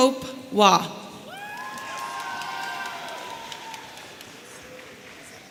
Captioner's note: audience cheering